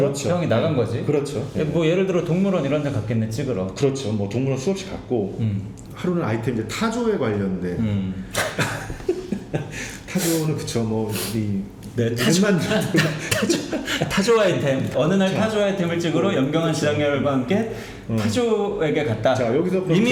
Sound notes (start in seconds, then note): 8.3 laughing